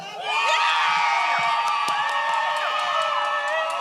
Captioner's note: audience cheers